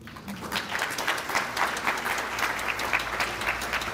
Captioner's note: audience clapping